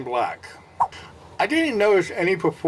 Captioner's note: swipe Sound